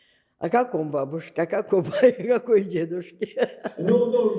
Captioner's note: laughing